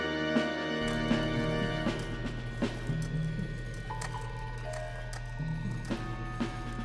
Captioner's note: electronic whirring and warbling